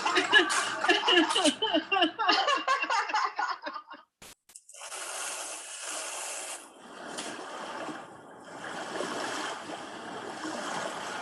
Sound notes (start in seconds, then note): 0.0 laughter; 6.6 waves crushing